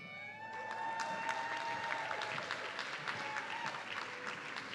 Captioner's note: audience cheering